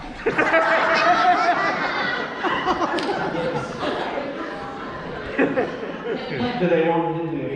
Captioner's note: laughter